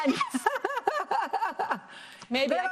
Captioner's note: laughs